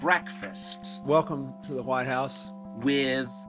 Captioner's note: soundbite of archived recording